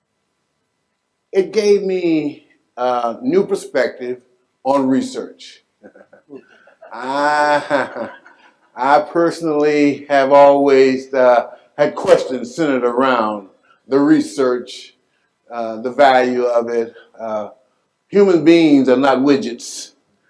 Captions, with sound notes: it gave me a new perspective on research, (laughs) I personally have always had questions centered around the research, the value of it, human beings are not widgets,